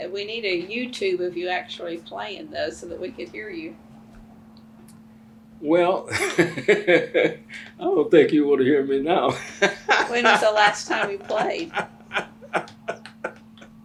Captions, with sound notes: We need a YouTube of you actually playing though, so that we could hear you. Well, (Laughs) I don't think you want to hear me now. When was the last time you played?